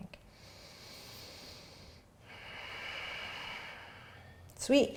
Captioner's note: inhaling and exhaling